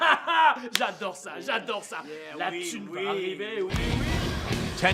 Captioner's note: speaking in foreign language